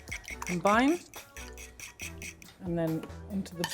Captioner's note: fork scrapes